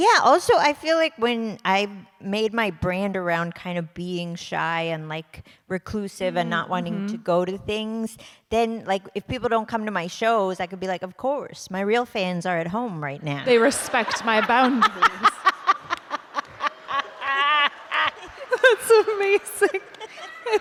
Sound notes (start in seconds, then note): 15.6 laughter